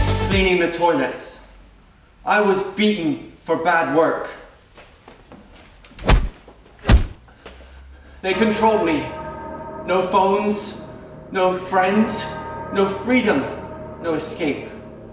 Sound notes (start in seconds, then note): 6.8 punching noise